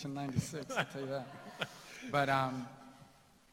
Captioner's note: laughter